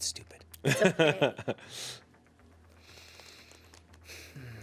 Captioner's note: man laughs